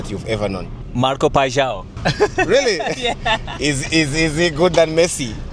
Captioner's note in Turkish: kahkaha